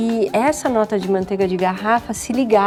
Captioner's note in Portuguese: none